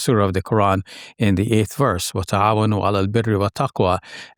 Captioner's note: speaking in foreign language